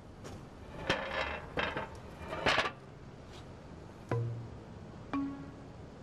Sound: metal scraping

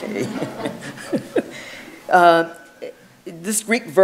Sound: audience laughs; chuckles

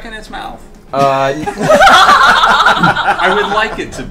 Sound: all laugh

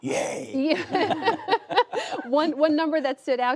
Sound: laughter

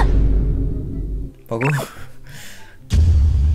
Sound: German

